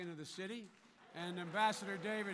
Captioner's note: applause